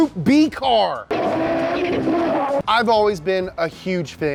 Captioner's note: engine revs